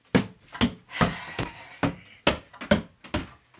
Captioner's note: loud footsteps